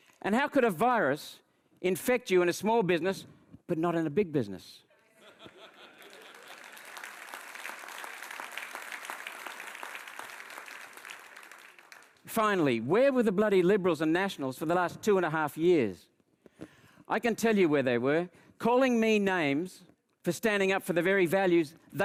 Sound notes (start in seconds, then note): 5.2 audience member laughs; 5.8 audience applauds